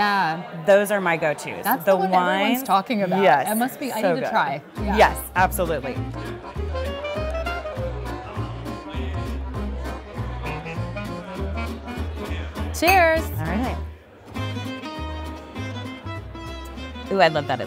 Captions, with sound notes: - Those are my go-tos. - That's the one everyone's talking about. - Yes. - It must be, I need to try. - Yes, absolutely. (gentle music) (chatter) - Cheers. - Alright. (gentle music)